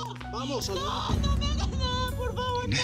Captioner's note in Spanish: Oye los gritos